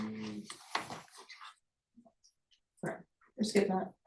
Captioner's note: paper rustling